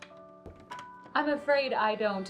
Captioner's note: door clicks